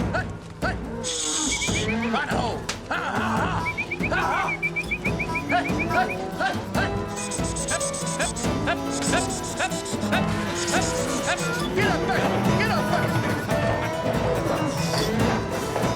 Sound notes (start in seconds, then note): 1.2 whistling; 6.8 calling cattle; 13.2 calling, whistling